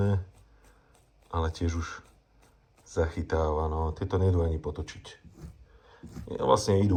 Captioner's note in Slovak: smrkanie